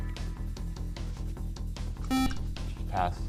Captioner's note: beep